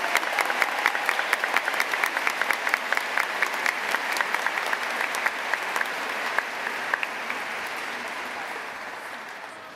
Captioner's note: cheers and applause